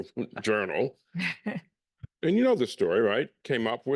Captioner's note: laugh